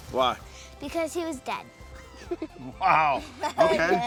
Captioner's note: laughs